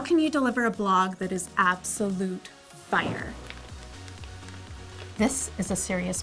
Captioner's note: fire sounds